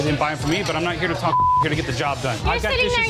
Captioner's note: beep